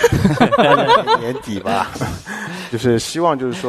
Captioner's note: hahaha…